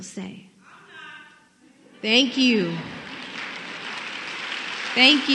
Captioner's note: applause